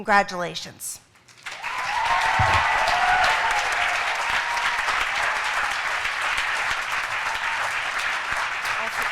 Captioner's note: applause